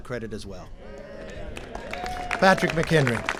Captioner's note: applause